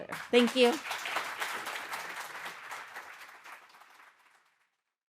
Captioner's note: audience applauding